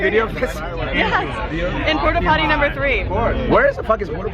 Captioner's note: laughs